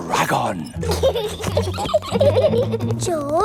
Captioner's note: both giggling